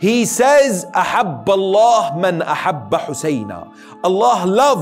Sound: Arabic

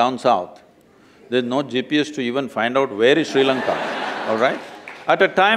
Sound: laughter

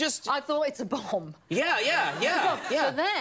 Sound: audience laughs

